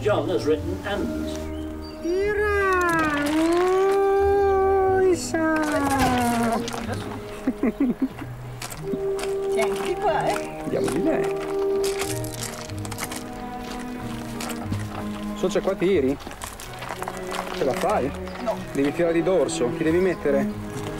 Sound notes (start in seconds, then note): 5.7 man laughing; 8.7 man speaking native language; 20.7 man speaking native language